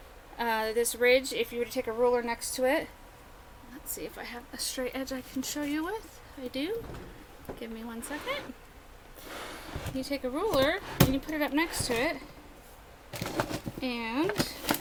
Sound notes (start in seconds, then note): 9.2 drawer opening; 13.0 shuffling of items in drawer; 14.6 more shuffling